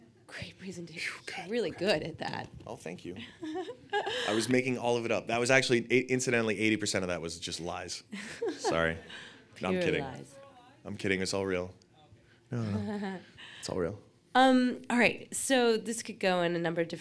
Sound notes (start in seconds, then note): 3.4 laughs; 7.4 laughs; 12.6 laughs